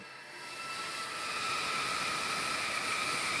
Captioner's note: whirring